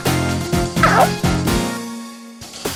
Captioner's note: gulped